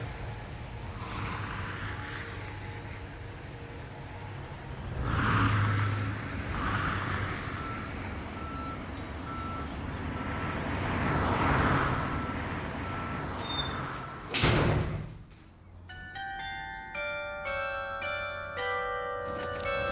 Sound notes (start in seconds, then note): 13.4 metal door slams; 15.8 church bells chiming